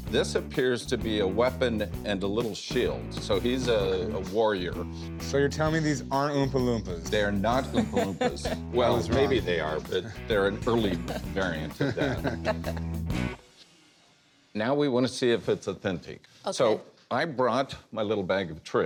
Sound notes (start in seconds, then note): 7.5 laughs; 10.9 laughter